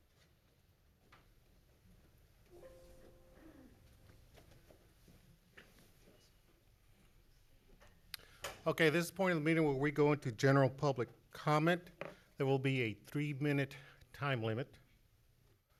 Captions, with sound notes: (computer chiming) - Okay, this point of the meeting where we go into general public comment. There will be a three minute time limit.